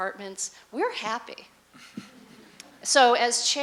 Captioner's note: laughter